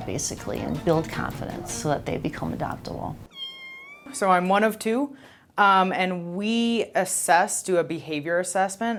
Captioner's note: kitten Meows